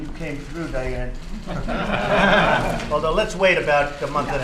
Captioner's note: laughter